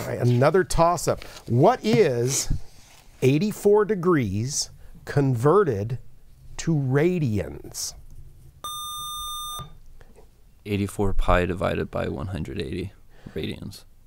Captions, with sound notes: Another toss up what is 84 degrees converted to radians. [Buzzer] 84 PI divided by 180 radians.